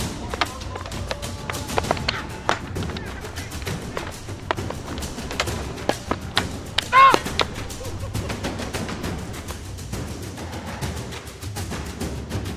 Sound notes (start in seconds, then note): 7.0 referee speaks in Tagalog; 7.8 sticks clunking; 8.6 thrilling music continues